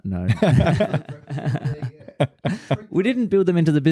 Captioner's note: laughing